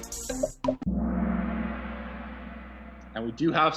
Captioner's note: gong